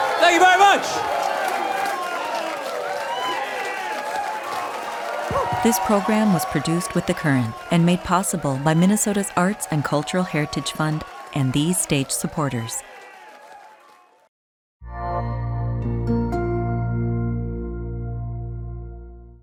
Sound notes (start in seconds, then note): 2.1 audience applauding; 14.9 gentle music